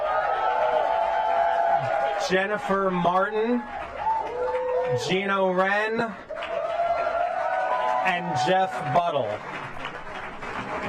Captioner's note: applause